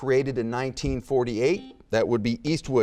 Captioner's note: buzzer beeping